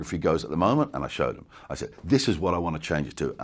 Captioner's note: none